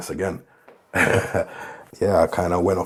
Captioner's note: chuckling